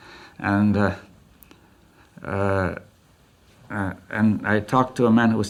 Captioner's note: laughs